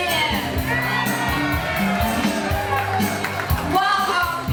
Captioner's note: crowd cheering